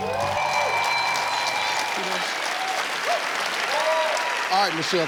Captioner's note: audience clapping